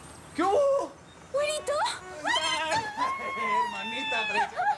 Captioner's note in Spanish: Risas